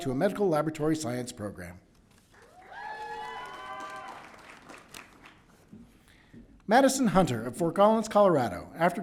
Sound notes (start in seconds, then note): 2.4 crowd cheering